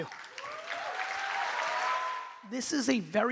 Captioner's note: crowd cheering; crowd clapping